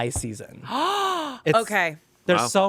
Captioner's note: Amanda gasps